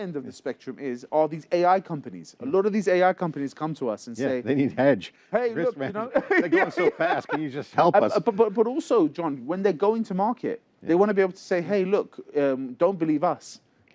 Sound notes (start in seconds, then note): 5.6 laughter